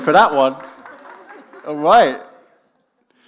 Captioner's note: group chuckling